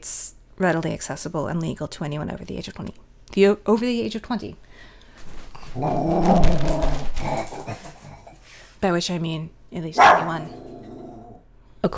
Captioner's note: growling; bark